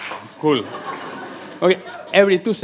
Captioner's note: laughter